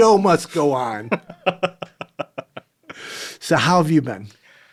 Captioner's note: laughing